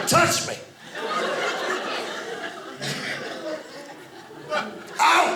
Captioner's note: audience laughing